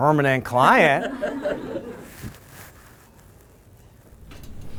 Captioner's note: laughter